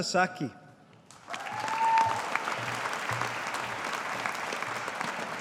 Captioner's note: audience applauding